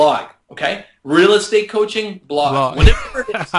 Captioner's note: laughter